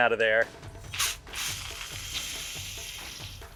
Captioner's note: more hissing and spurting